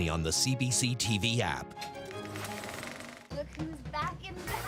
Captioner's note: film reel clicks